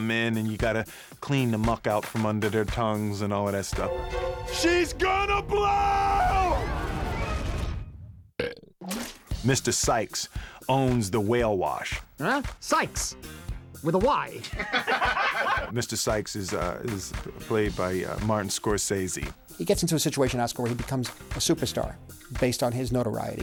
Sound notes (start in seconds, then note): 8.3 belches; 14.4 laughter